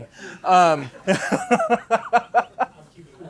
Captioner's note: laughs